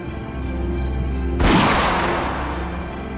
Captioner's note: gunshot